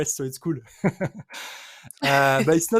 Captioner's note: chuckles